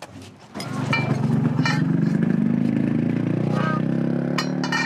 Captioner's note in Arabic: هدير محرك الشاحنة